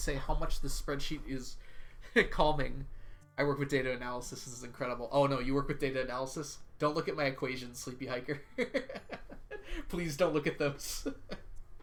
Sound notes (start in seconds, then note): 8.6 laughs; 11.2 laughs